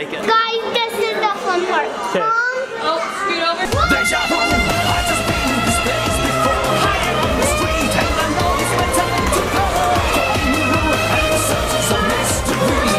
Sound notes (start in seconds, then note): 3.6 exciting music; 5.0 kids shouting